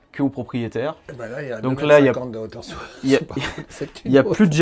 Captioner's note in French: rires